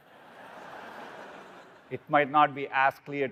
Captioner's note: audience laughing